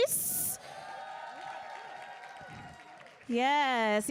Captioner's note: audience cheering